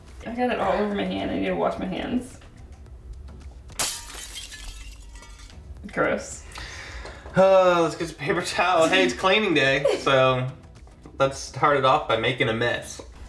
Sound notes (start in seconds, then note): 3.7 glass shatter; 6.6 sigh